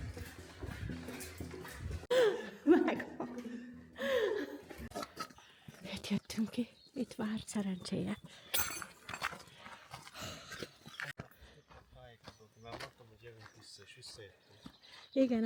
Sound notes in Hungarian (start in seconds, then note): 2.2 nevetés; 4.8 zihálás